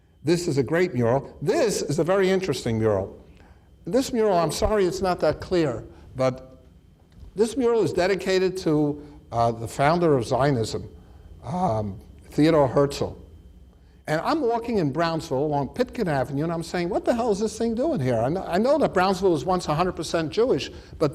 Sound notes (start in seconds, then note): none